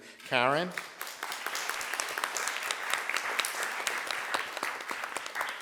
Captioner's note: audience applauds